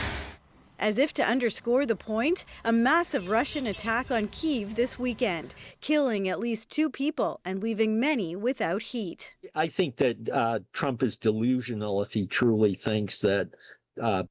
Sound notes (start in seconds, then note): 1.9 speaking alternate language